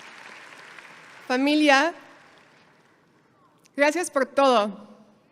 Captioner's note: speaks foreign language